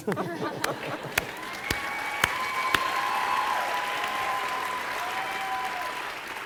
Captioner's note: audience cheering and applauding